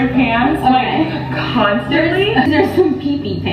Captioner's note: laughing